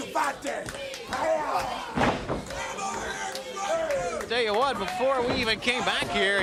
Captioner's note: crowd chatter